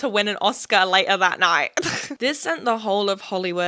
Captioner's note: chuckles